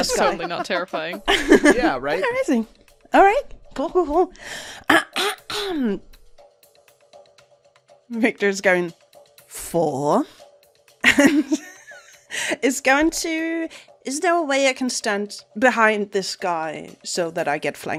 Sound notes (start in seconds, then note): 0.0 laughs; 4.8 clears throat; 11.3 laughs